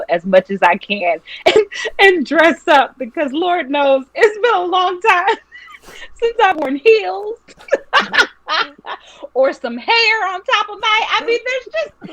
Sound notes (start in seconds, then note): 8.2 laughing